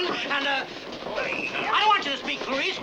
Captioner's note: crowd muttering